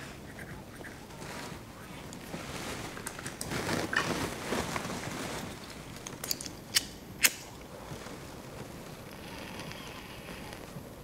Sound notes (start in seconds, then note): 9.0 sucking noises